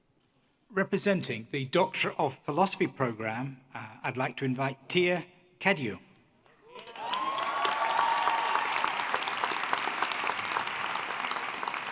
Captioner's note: applause